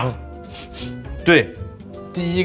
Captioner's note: sniff